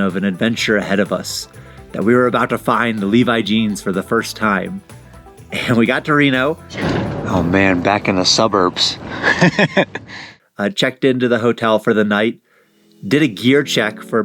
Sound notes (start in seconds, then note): 9.0 laughter